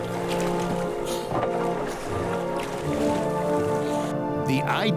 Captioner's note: water splashes